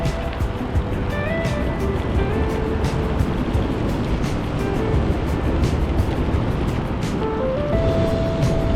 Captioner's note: wind Blowing